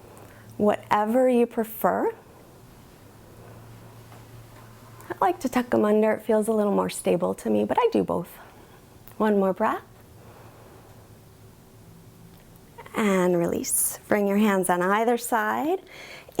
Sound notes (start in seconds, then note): 10.8 inhales